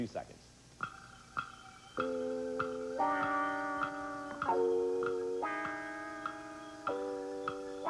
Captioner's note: clock ticking